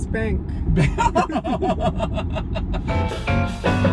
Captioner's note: laughing